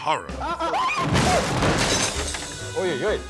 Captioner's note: interviewers exclaiming; bookcase thuds; interviewer speaking Russian